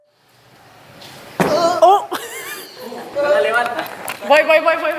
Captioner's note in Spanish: risas